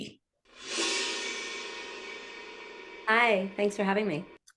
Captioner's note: graphics swoosh